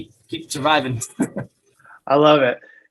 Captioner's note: chuckle